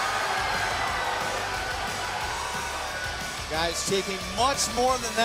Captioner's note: crowd cheering